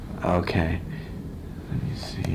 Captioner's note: none